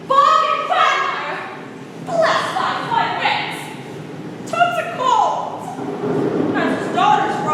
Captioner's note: thunder rumbles